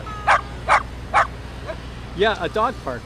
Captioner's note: dog barking